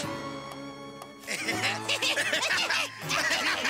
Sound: laughing

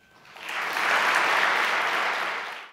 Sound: applauding

